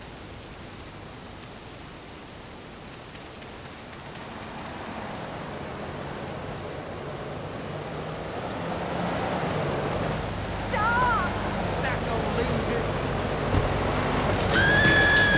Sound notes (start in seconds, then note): 7.6 tires screeching; 13.1 tires screeching; 13.5 explosion